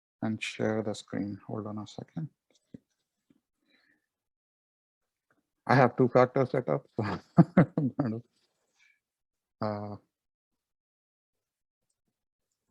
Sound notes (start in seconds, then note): 6.9 laughs